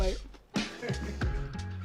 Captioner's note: laughter